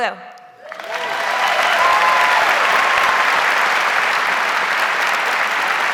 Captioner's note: audience cheers and applauds